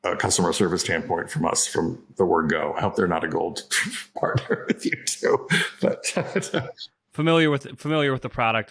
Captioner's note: laughs